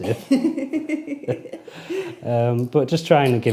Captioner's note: laughing